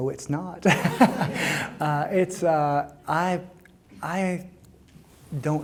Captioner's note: audience laughing